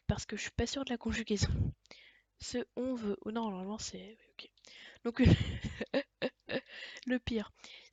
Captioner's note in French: rires